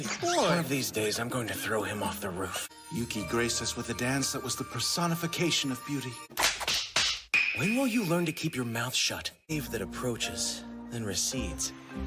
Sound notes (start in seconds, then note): 6.4 smack x3